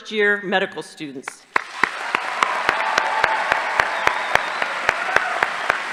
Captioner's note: audience applauding